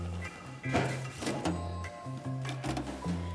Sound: clunk

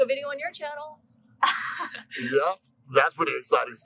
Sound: laughter

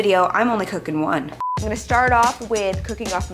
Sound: quick beep

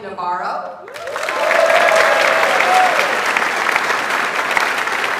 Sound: audience applauds

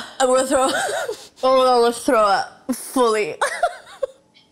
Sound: laughs

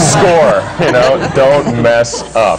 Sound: laughter

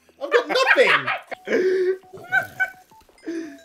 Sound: losing it

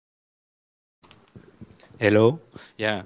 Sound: microphone popping

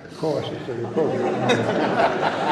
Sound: laughter

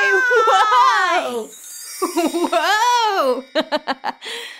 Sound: laughing heartily

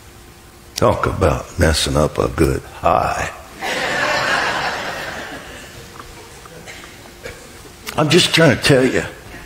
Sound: congregation laughs

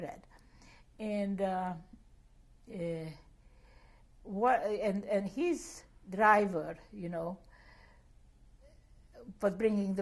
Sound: pauses for 3 seconds

